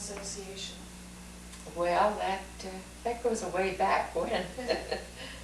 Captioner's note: laughs